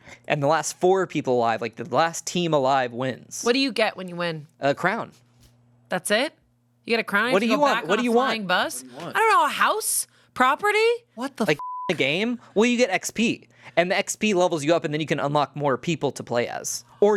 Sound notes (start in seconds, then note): 11.6 beep